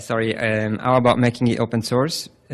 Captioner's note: voiceover